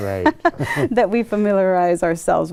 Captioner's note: chuckles